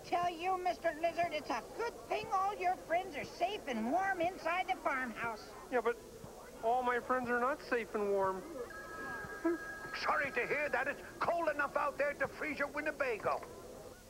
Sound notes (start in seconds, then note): 10.7 telephone rings